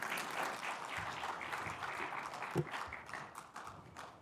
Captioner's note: audience applauding